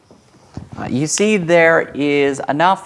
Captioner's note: none